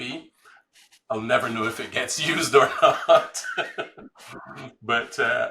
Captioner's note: laughs